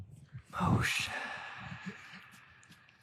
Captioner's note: whisper